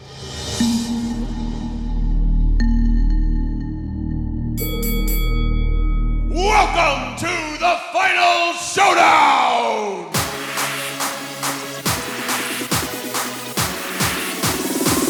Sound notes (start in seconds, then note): 0.1 slow intense music; 4.6 bell ringing